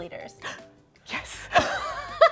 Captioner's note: gasps; laughter